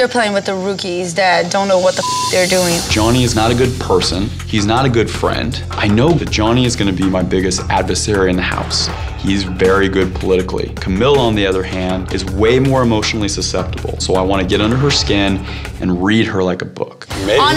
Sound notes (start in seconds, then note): 2.0 beep